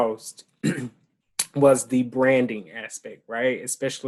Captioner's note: clears throat